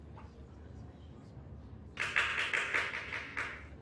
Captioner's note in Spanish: Aplauso